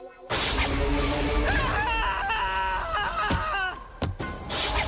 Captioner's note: screaming